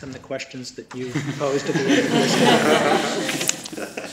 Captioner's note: laughter